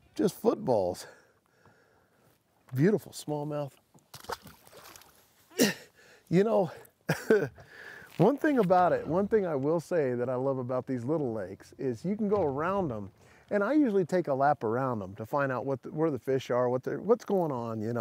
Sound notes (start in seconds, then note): 7.0 chuckles